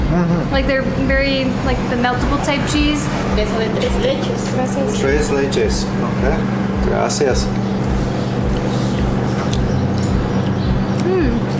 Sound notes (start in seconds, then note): 3.2 speaking in Mexican